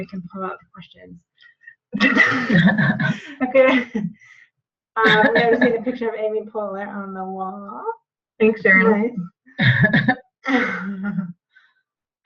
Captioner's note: background Discussion